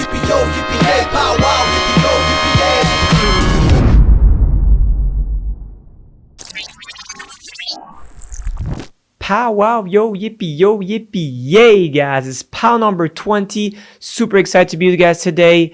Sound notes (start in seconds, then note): 7.9 robotic sounds